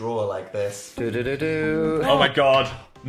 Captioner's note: Young Dan hums